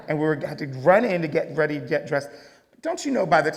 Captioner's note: none